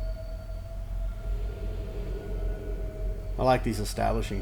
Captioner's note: sound of wind